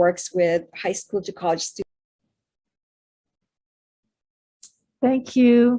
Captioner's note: audio cuts out